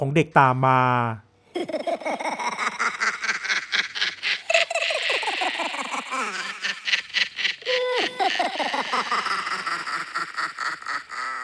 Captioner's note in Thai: เสียงหัวเราะ